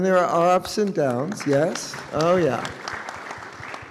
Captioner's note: all applauding